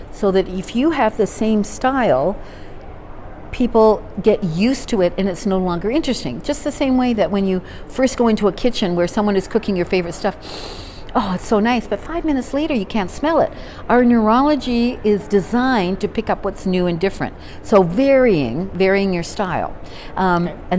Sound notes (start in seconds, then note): 10.4 sniffing